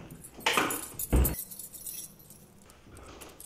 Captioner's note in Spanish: ruido de llaves